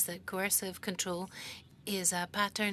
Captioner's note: speaking French